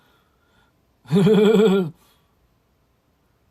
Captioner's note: hEHEHE